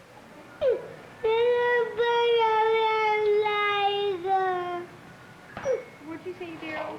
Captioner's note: Spanish speaking